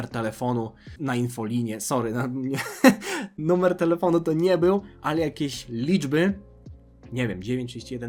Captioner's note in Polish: śmiech